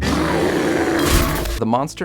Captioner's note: growling